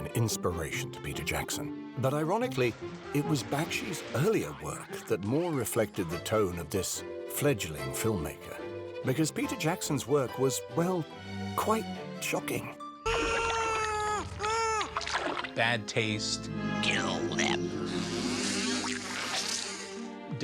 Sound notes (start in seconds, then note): 10.6 muffled screaming; 15.2 chainsaw roars